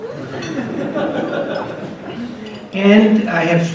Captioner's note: audience laughs